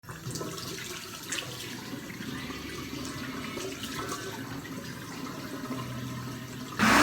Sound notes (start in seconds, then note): 0.5 water splashing